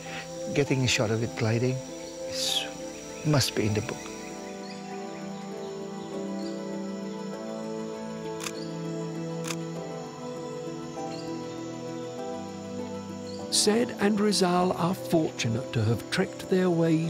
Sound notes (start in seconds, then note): 8.4 camera clicks